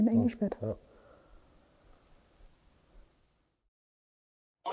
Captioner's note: silence in the background